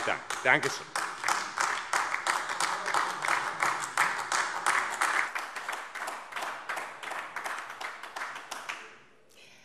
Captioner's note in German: Beifall AfD